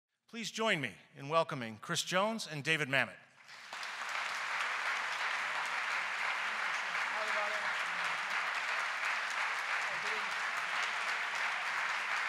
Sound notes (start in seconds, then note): 3.3 applause